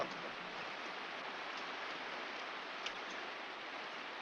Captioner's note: water flowing